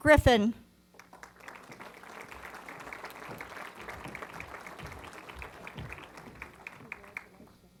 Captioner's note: applause